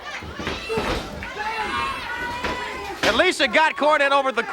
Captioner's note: foot thuds